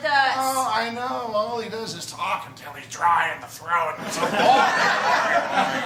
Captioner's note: laughter